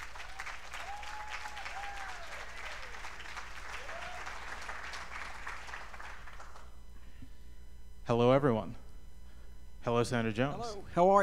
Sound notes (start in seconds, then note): 6.7 applause